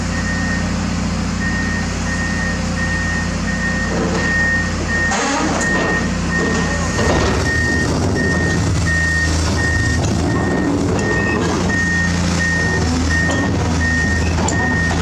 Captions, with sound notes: [TRACK BEEPING] Maximum Focus: Crawling 2nd Unit Over Slick Ramps